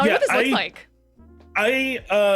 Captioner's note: laughing